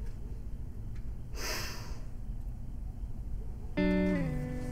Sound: sharp Inhale

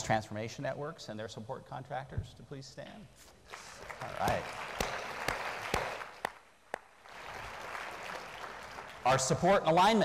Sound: applause

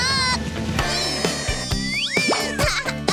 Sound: giggles

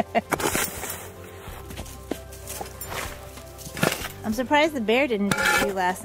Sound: chuckles; shovel scrapes metal

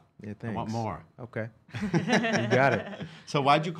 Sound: laughing

